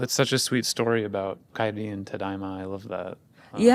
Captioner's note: speaking in Japanese